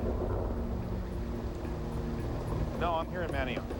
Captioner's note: thunder